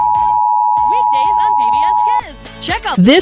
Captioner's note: beep Noise Playing